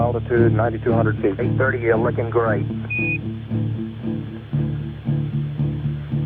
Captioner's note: voiceover